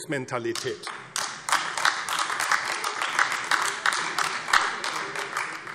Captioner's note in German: Beifall AfD